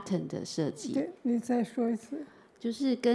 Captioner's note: Mandarin